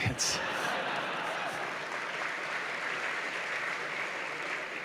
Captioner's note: laughter